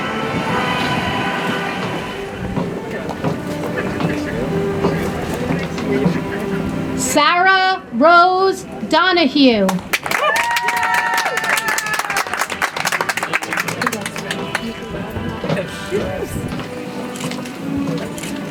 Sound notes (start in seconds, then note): 9.7 audience applauds; 13.9 soft music